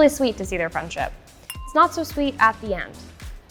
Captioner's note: glasses clinking